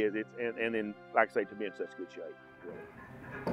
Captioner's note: chuckles